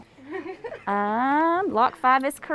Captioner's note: woman laughing